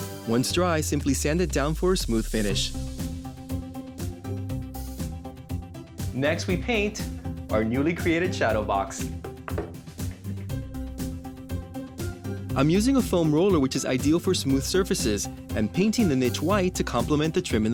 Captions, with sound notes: Once dry, simply sand it down for a smooth finish. (bouncy cheerful music) Next, we paint our newly created shadow box. (box taps) I'm using a foam roller, which is ideal for smooth surfaces and painting the niche white to compliment the trim